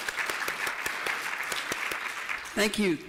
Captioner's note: applause